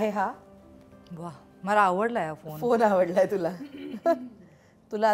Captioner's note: Chuckles